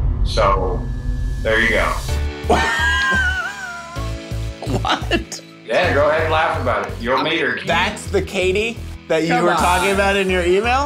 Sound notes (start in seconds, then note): 2.5 laughing; 2.7 fun music